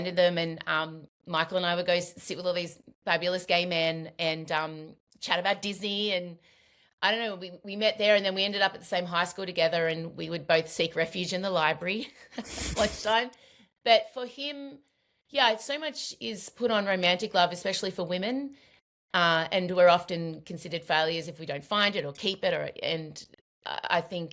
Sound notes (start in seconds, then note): 12.4 laughs